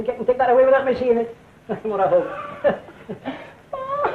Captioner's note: laughs